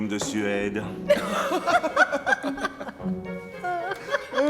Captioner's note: all laughing